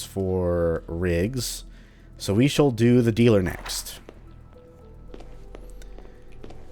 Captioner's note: journal closes